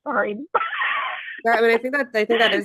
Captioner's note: laughing